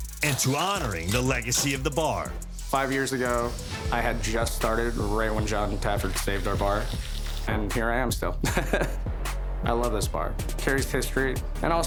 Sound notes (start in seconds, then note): 8.4 laughs